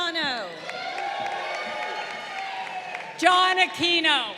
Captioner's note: crowd cheering